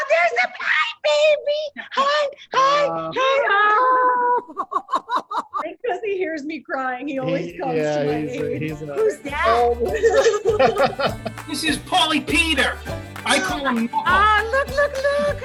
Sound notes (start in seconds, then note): 3.8 laughs; 8.5 cheerful music; 9.3 laughs